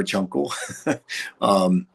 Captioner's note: chuckles